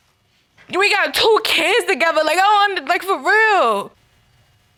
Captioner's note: stammers